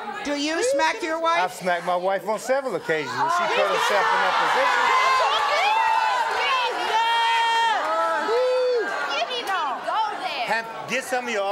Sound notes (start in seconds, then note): 5.4 audience yelling